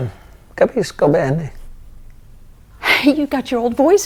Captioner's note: speaking in foreign language